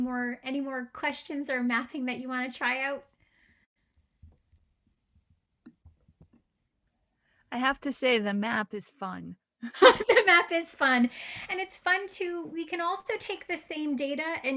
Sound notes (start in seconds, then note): 9.7 laughing